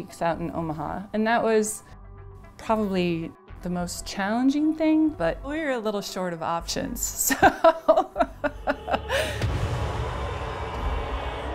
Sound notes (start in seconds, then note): 7.3 laughs; 10.1 dramatic music